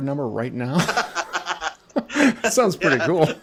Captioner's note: both chuckling